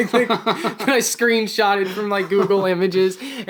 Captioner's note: both laughing